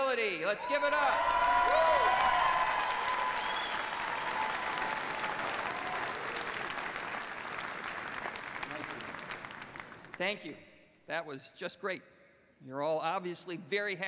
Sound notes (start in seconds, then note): 3.1 cheers and applause